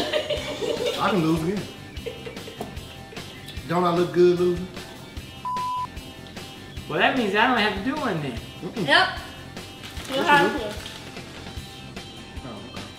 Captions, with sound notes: I can lose again. Don't I look good losing? (beep) - So that means I don't have to do anything. - Nope. Still have to.